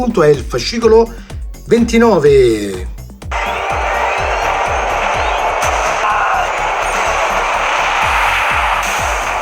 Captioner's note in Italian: Applauso